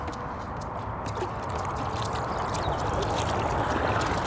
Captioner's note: water draining